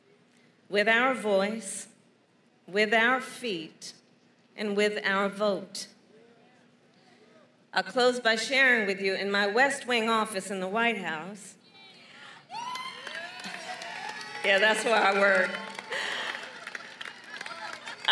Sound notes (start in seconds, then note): 12.5 applause